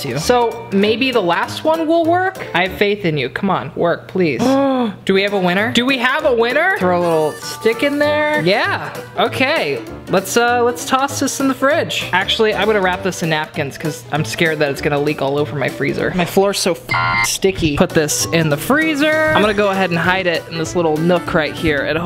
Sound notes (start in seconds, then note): 16.9 beep